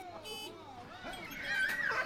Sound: cars honking; children laughing

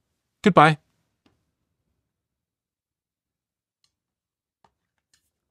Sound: mouse clicking

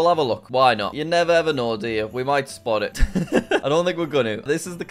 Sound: laughs

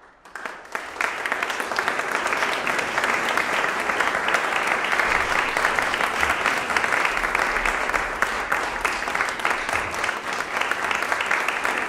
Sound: applause

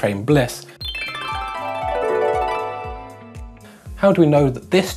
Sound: sparkling sound effects

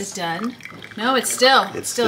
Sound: liquid splattering

